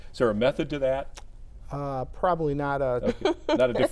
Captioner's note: laughs